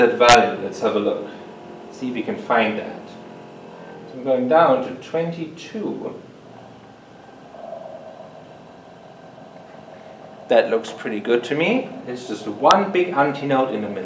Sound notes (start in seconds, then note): 7.7 slow humming